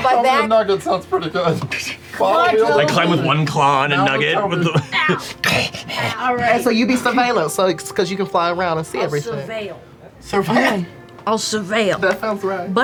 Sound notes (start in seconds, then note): 4.7 grunts; 10.9 laughs